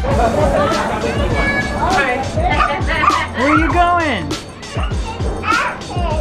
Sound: indistinct loud chatter

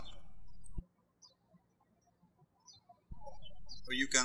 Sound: birds chirping

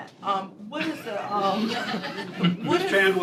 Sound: laughter

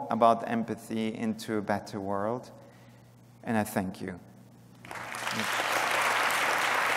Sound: applause

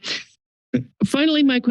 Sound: pause

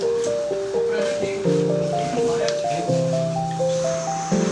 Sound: foreign language

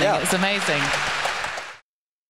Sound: applause

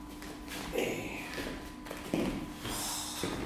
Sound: inhaling, holding breath and also exhaling a bit into a hit

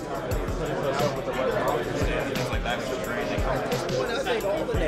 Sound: group chatter

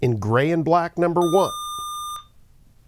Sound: buzzer

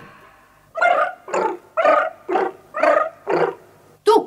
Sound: the cats purr in harmonious chorus

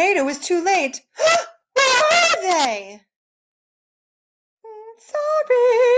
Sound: gasp

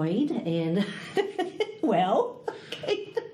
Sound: all laugh

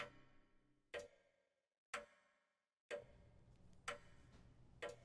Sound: grandfather clock ticking

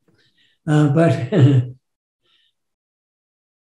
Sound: laughs

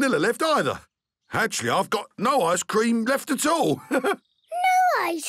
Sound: chuckles

